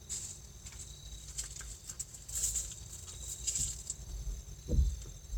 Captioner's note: rustling; vehicle being emptied